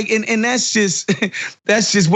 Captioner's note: laugh